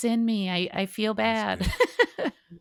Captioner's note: laughs